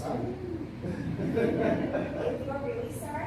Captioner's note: laughter